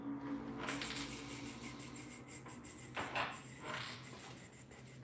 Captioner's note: exhaling sharply